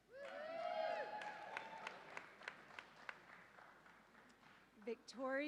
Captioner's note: audience applauds and cheers